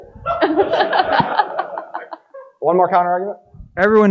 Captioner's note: audience laughing